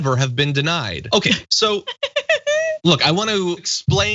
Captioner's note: laugh